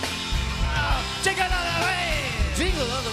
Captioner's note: cheers and applause; As Bob Dylan